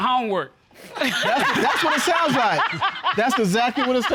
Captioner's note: all laughing